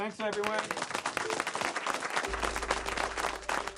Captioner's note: all clapping